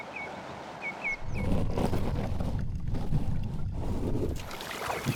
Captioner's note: scrubbing